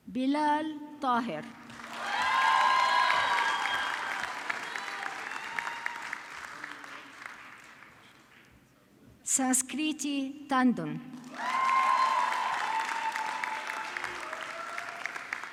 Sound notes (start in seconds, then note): 1.4 audience clapping; 11.2 audience clapping